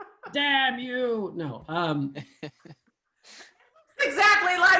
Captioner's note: laughing; laughing